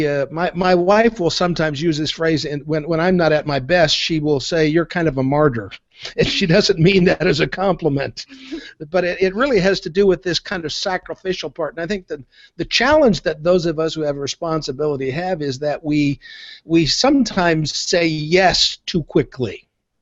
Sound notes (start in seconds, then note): 6.0 laughing; 8.4 soft laughter of person in background